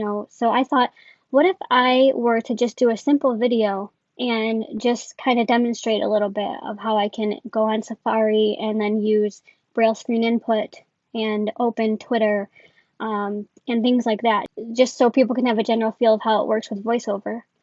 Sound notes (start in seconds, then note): none